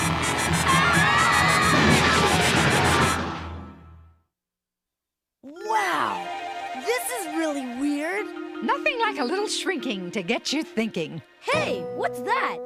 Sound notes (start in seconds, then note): 0.6 all screaming; 1.7 crashing